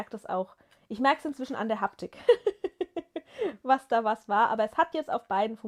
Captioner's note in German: gelächter